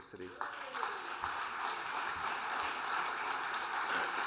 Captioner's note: audience applauding